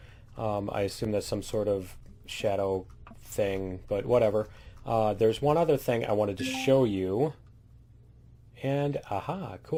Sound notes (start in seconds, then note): 6.4 ding